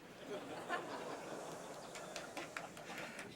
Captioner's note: laughter